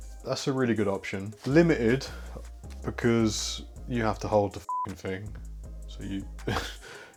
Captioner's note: beep